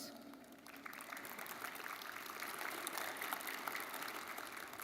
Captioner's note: audience applauding